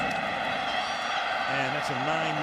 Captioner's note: cheering